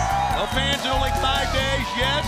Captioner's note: crowd cheering